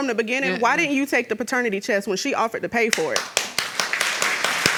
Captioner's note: audience applauds